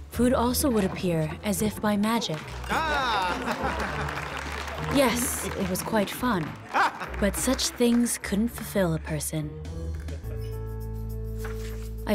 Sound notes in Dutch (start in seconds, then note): 2.2 mensen applaudisseren; 2.7 man lacht; 10.4 heldere muziek